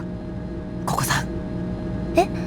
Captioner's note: whisper